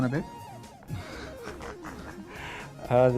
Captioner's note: laughter